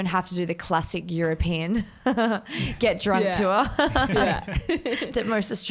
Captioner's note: laughs